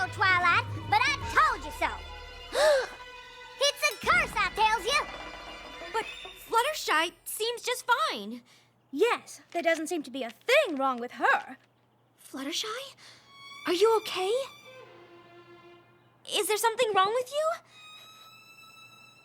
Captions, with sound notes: I TOLD YOU SO, TWILIGHT, BUT I TOLD YOU SO! [ BOTH GASP ] IT'S A CURSE, I TELLS YA! BUT FLUTTERSHY SEEMS JUST FINE. YES. THERE DOESN'T SEEM TO BE A THING WRONG WITH HER. FLUTTERSHY? ARE YOU OKAY? IS THERE SOMETHING WRONG WITH YOU?